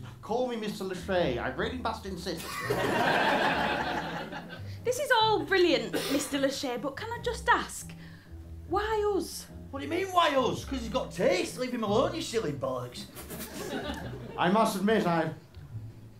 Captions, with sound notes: call me Mr L'Shay, I really must insist. (LAUGHTER) This is all brilliant, Mr L'Shay, but can I just ask... ...why us? What do you mean, "Why us"? Cos he's got taste. Leave him alone, you silly bollocks. I must admit, I...